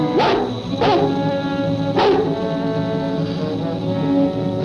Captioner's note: Devil barking